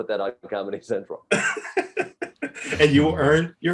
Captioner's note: Eric laughs